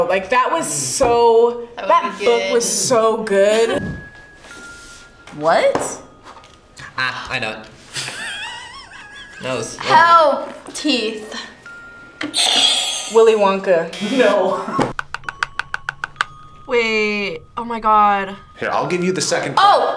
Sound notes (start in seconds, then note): 7.9 React laughs; 11.6 buzzer rings; 13.9 buzzer; 14.9 laughs; 14.9 teeth chattering